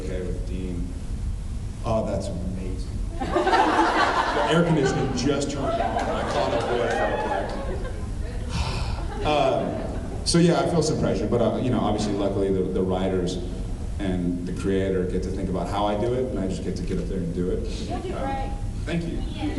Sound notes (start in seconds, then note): 3.2 laughs; 5.9 cheers